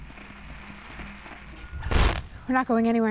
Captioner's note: static